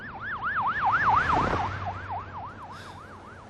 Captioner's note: siren waiIing